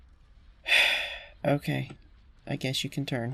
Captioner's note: sigh